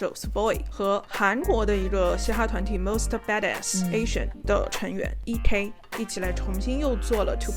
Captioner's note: Korean